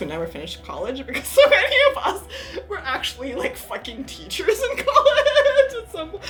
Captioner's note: laughs